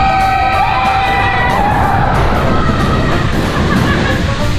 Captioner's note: screaming; water splashing